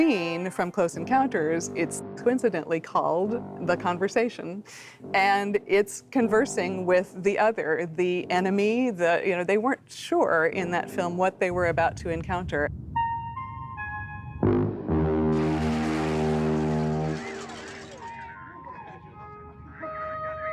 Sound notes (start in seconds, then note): 14.5 glass shattering; 16.9 repeating music notes